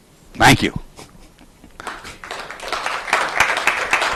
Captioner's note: audience applauds